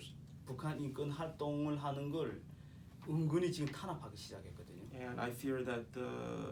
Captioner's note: speaking korean